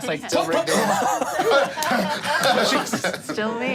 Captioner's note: group laughing